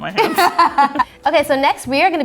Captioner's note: laughing